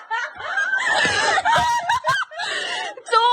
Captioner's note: laugh